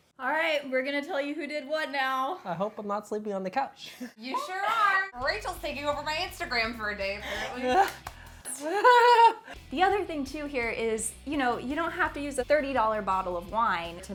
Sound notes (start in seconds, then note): 8.5 nervous laughter